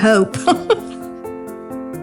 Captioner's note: laughing